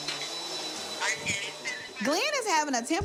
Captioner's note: on phone